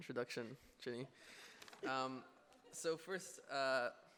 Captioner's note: audience laughing